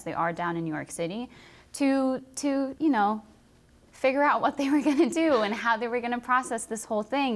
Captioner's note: laughter